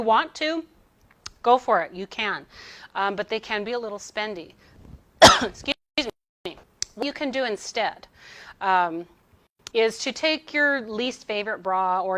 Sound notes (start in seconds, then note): 5.2 coughs